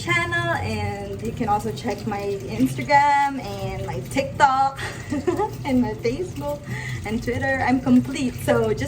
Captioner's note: laughs